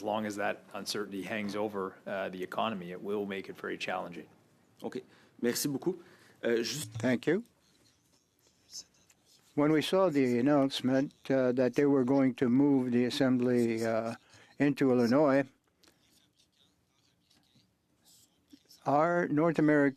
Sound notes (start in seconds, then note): 13.0 speaking French